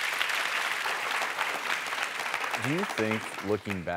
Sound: applause

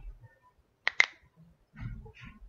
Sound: crack

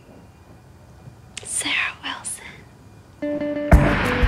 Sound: whispers

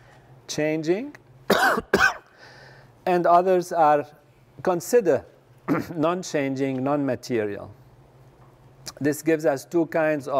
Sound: cough

